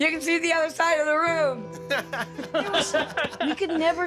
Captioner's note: laughing